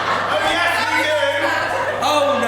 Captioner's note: audience laughs